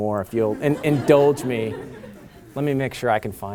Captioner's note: laughter